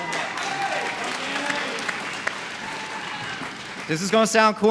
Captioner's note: applause